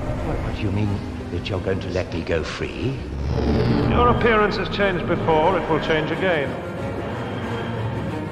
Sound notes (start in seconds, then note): 3.0 cloister bell